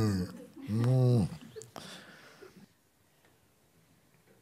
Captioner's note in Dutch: gromt alsof hij zich wil losmaken